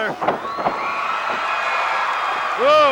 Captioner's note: audience cheering